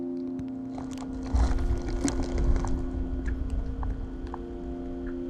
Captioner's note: footsteps crunching